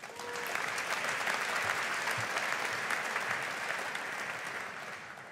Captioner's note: audience applauding